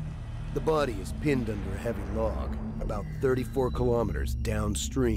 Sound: voiceover

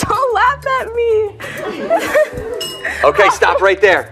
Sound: laughter

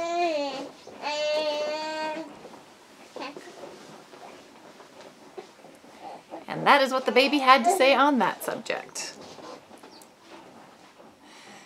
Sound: very talkative infant

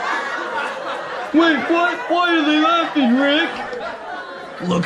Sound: laughter; laughter continues

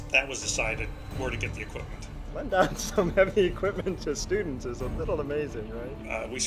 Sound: laughing

